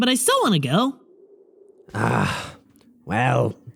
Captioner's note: sighs